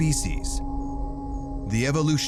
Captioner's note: crickets chirping